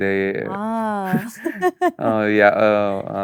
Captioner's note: both laugh